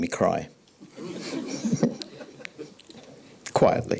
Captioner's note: audience laughing